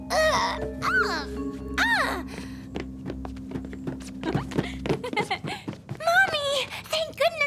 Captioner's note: grunting